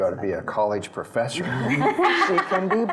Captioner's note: laughing